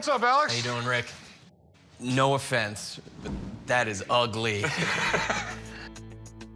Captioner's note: laughs